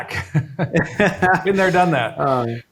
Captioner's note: both laughing